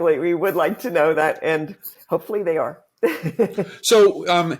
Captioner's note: laughs